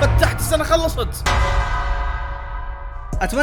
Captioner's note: bell dings